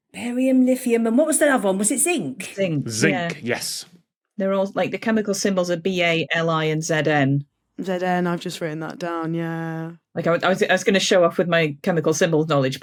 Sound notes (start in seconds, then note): none